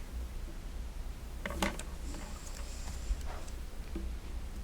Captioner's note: light clattering